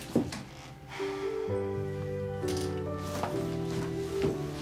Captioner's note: sighs